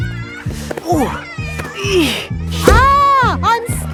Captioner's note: grunting